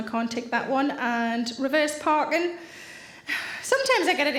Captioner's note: exhales